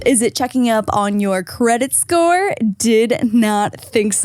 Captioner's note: none